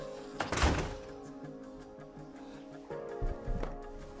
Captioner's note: door rattles